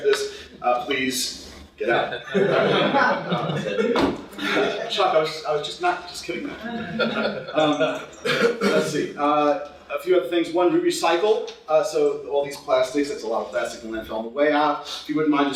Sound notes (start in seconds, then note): 3.9 laughter